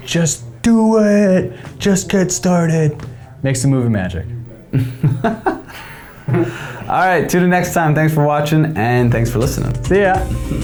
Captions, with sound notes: Just do it! Just get started, make some movie magic. (laughing) Alright till the next time, thanks for watching and thanks for listening. See ya!